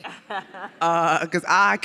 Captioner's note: audience and panelists laugh